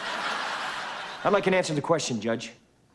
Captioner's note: laughter